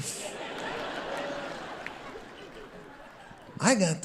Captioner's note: audience laughing